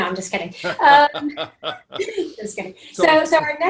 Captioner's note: laughing